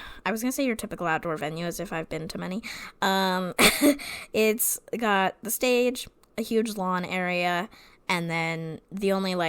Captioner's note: laughs